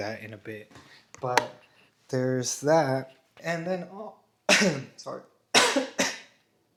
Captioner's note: clears throat